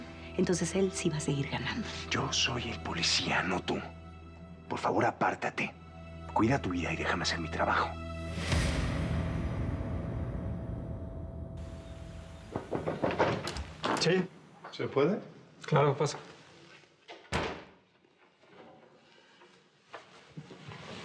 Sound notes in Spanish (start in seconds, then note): 11.7 toques en la puerta; 17.2 sonido al cerrar la puerta